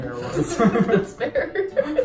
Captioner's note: laughs